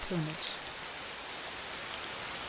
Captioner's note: raining